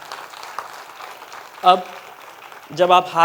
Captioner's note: applause